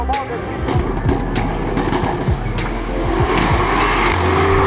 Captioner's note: car revving loudly